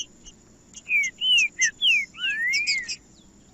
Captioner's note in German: trinca ferro cantando